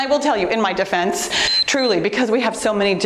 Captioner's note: timer beeps